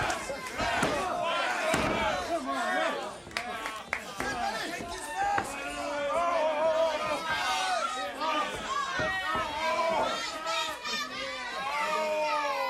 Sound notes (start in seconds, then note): 0.9 crowd cheering; 2.0 crowd chatter